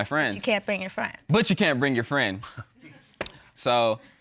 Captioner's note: chuckles; audience laughing